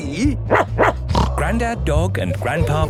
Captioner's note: barking, snorting